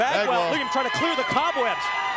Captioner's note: crowd chatter